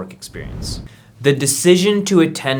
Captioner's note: air whooshing